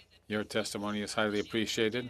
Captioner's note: speaking French